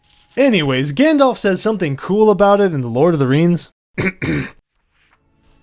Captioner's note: throat clear